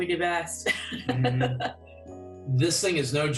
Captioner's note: laughter